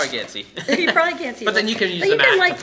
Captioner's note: laughing